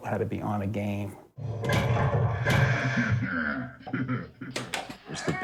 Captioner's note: game growls and laughs